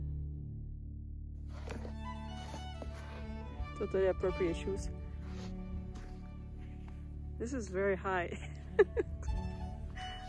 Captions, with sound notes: Totally appropriate shoes..! This is very high. [laughters]